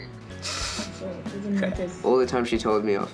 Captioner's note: laughs